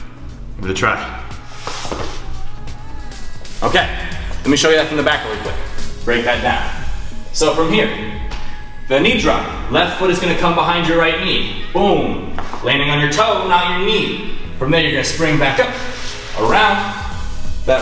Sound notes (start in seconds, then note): 1.5 sliding